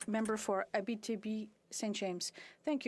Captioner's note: speaking French